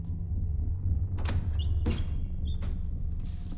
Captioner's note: window creaks